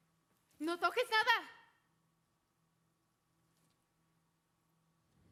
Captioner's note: speaking Spanish